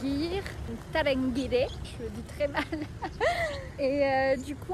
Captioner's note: laugh